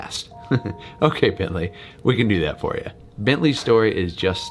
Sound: chuckles

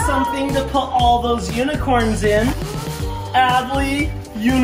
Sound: gasping

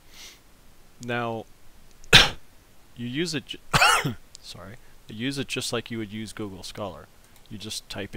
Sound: cough

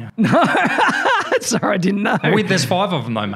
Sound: laughs

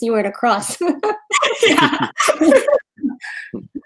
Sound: laughing

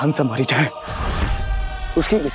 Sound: sound effect playing

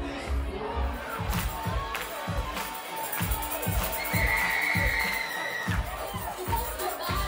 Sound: crowd cheering; tambourine rattling; upbeat music

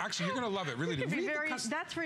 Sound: laughter

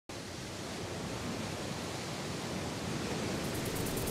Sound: waves crashing

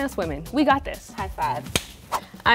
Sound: slaps

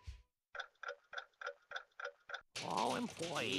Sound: clock ticking

